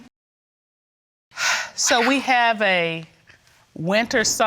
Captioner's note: exhales